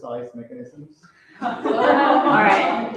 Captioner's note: laughter